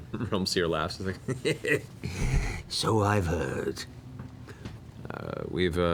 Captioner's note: chuckles